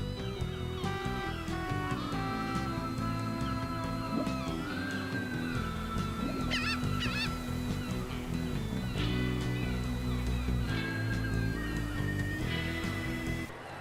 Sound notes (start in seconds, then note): 6.4 seagull squawking; 8.4 surf rock music